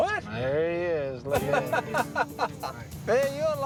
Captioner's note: laughter